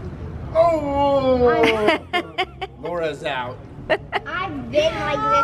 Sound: laughs

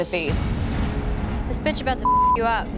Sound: beep

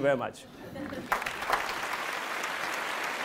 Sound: applause

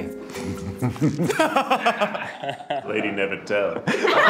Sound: laughing

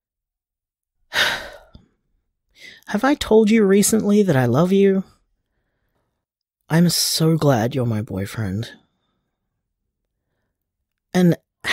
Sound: sigh

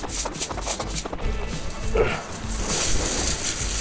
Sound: fence rattling

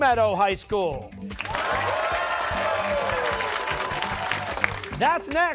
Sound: cheers and applause

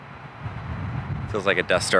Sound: wind blowing

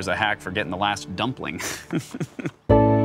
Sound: chuckles

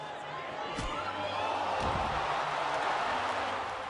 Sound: crowd gasping, cheering

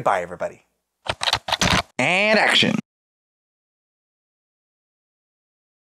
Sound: typing

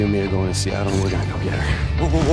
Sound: exhaust

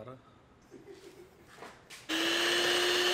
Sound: chuckles

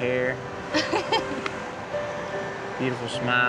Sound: chuckling

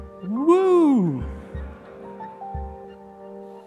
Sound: audience chuckling; gentle music continues

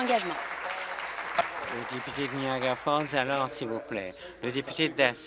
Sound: applause

